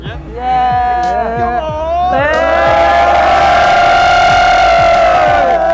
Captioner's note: crowd cheers